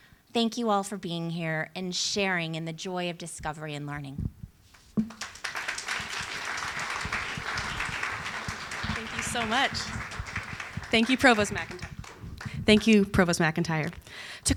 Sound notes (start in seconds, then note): 5.0 applause